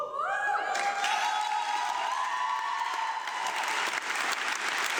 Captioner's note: audience applauding